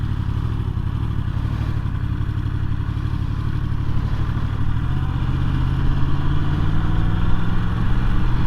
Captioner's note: 0-100km/h acceleration sound